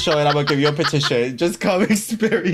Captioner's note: laughs